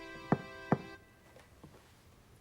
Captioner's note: knocking on door